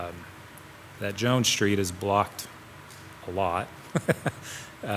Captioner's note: chuckles